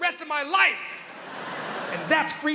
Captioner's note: crowd laughs